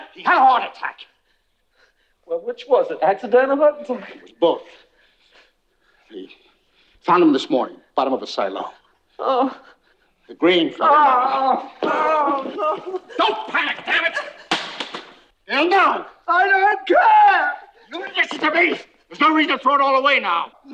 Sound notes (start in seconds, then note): 10.8 Skeeter groaning